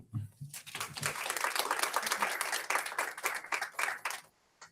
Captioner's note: audience applauds